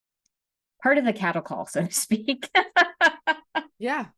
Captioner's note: laughing